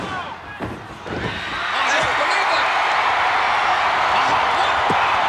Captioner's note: crowd cheering